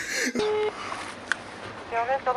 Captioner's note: telephone bleeping